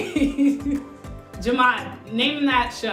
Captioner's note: laughs